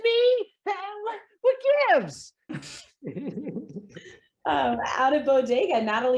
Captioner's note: Seth laughs